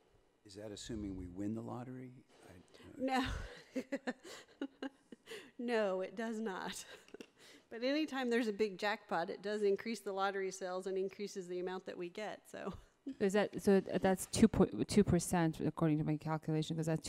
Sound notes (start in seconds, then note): 3.1 laughing